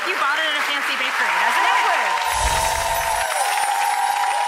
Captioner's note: applause